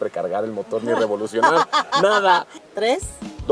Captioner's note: laughter